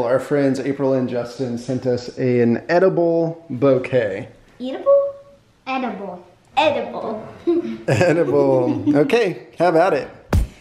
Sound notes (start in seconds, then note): 7.4 giggle